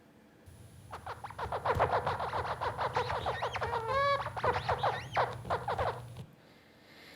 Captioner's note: birds singing